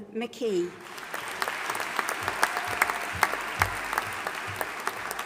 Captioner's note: audience applauding